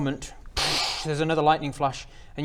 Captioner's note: dcsssh